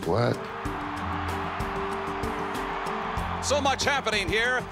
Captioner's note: applause